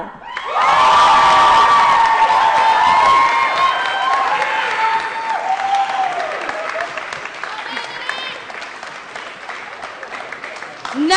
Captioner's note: applause & Cheering